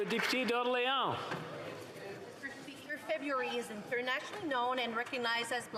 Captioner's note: applause